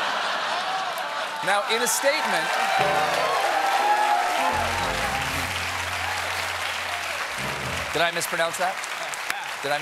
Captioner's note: laughter